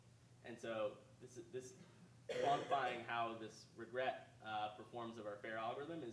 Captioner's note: coughing drowns out speaker